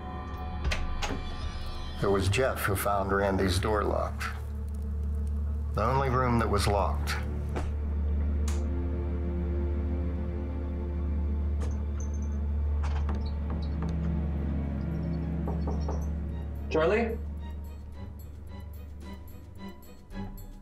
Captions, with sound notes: - It was Jeff who found Randy's door locked, the only room that was locked. (knuckles tapping) - Charlie? (suspenseful music)